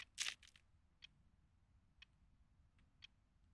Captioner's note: rosary clinks